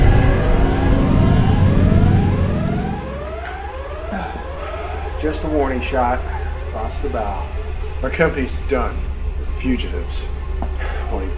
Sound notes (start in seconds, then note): 0.1 spaceship whirring; 2.5 siren wailing